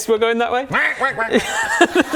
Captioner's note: quack quack quack quack